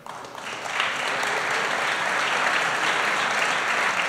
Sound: applause

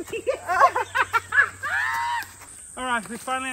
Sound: laughing

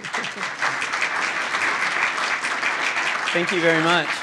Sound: applause

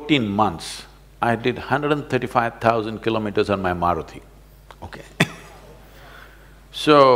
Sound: laughs

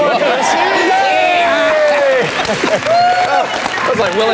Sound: crowd cheers

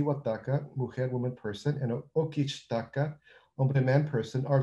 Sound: non-english

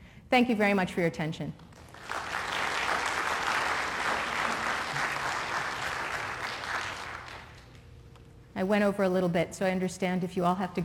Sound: applause

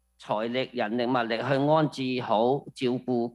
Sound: speaking non-english

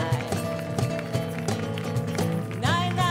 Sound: singing in Ladino; audience clapping; instrumental music; singing in Ladino

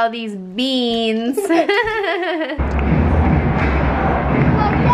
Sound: laughter

